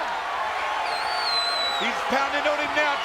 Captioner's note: audience cheering; attendee whistling